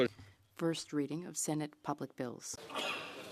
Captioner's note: speaking French